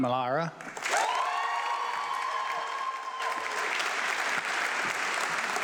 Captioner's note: audience clapping